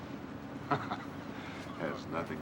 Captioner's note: laughs